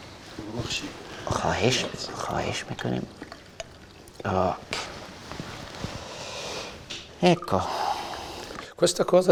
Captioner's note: chatter